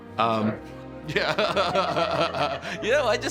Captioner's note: laughs